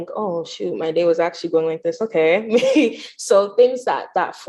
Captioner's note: chuckles